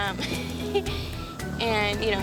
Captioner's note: giggles